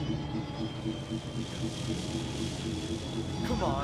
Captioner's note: portal crackles